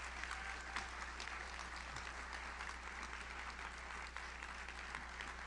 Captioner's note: audience cheers; audience applauds